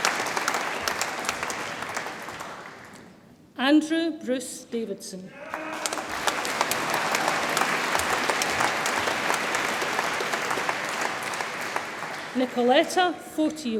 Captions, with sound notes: Andrew Bruce Davidson, (audience applauds and cheers) Nikoleta Fotiou,